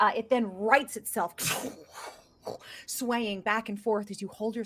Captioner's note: swoosh noise with mouth